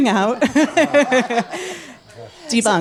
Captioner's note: laughs happily